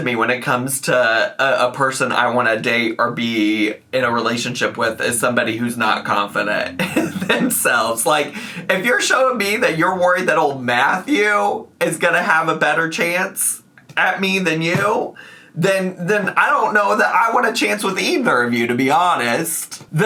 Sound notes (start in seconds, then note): 6.7 laughs